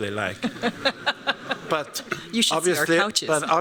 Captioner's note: laughter